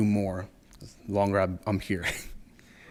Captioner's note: chuckles